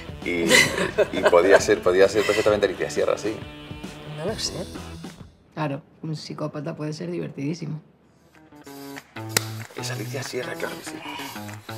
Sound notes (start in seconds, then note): 8.7 clap